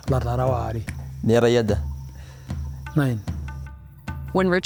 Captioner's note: person speaking in foreign language; speaking in foreign language